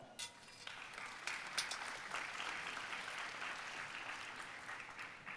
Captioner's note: audience applauding